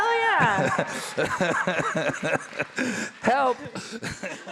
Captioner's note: laughing; audience applauding